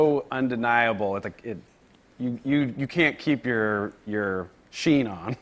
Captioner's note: laughs